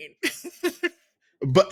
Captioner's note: laughs